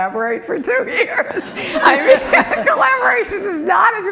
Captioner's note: group laughing